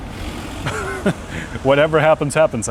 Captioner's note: nervous laughter